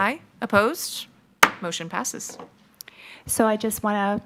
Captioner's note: gavel thuds